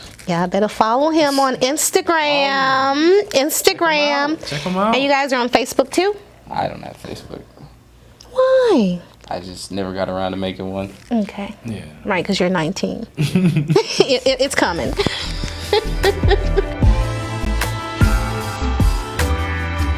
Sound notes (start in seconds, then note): 13.2 laughs; 14.4 funky music; 14.6 laughs